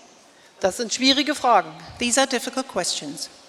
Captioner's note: speaking in German